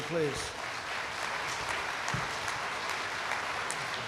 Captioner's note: applause